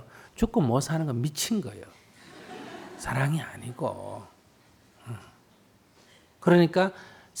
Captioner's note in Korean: 청중 웃음